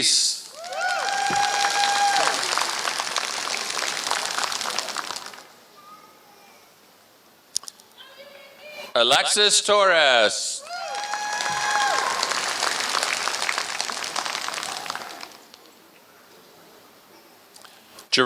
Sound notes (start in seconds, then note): 3.2 applause; 9.2 applause; 15.2 applause